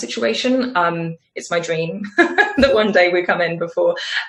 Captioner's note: laughs